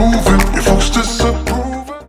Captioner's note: bell dings